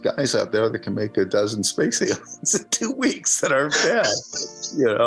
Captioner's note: laughs